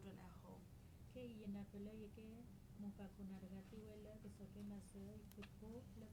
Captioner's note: speaking in foreign language